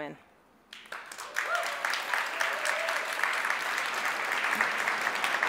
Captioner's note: audience cheers and applauds